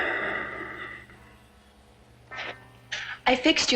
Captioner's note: Craig sighs